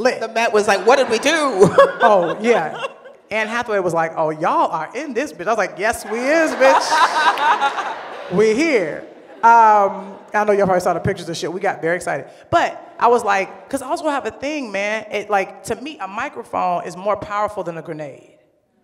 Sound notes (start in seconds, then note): 0.7 laughs; 6.0 laughter